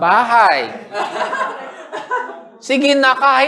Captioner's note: laughter